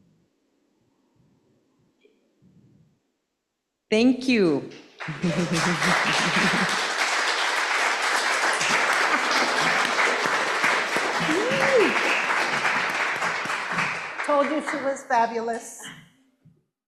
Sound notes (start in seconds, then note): 5.2 audience applauding